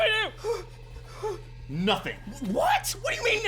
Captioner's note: whimpering